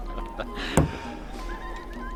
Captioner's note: thud